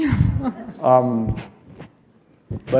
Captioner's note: chuckle